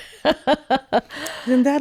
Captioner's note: laughing